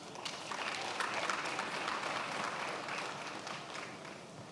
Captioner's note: attendees applauding